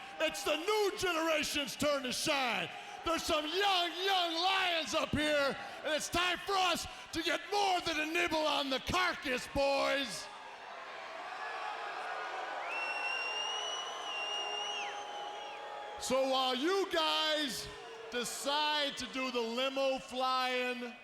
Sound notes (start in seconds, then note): 12.6 attendee whistling; 12.7 attendees cheering